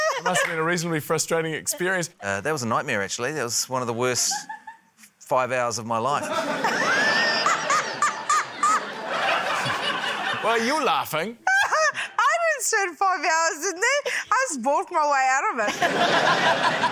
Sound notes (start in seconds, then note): 6.2 laughter; 6.3 laughs loudly; 15.6 laughter